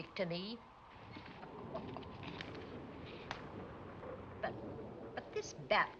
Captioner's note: chuckling